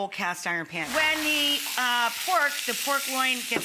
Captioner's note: meat sizzling